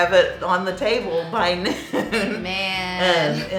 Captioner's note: laughing